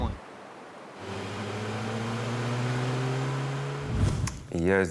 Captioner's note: engine roaring